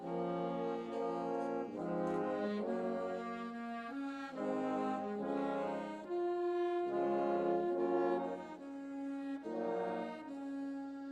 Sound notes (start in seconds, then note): none